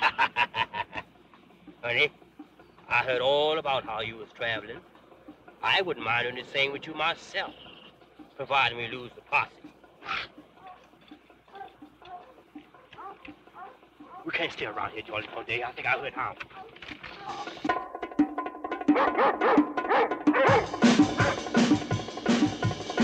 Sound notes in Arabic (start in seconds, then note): 0.0 يضحك; 9.9 نباح الكلاب; 16.9 موسيقى درامية; 18.8 نباح الكلاب